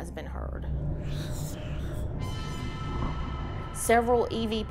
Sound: eerie whispering

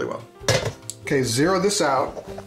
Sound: clanking

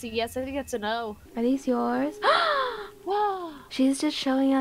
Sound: gasp

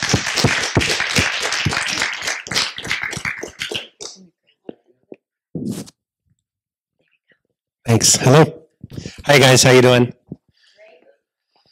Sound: applause

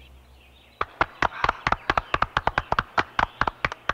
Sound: applause

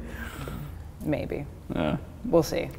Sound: groaning

